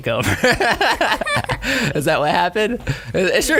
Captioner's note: laugh